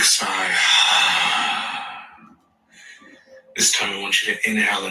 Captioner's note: sighs deeply